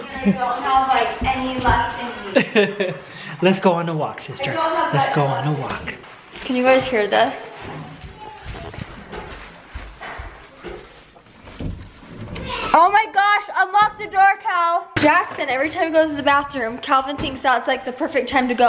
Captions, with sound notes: and I don't know if I have any left in me. (laughs) - Let's go on a walk, sister. Let's go for a walk. - I don't have much left in me. Can you guys hear this? (kids talking) Oh my gosh, unlock the door, Cal! Jackson, every time he goes to the bathroom, Calvin thinks that's the perfect time to go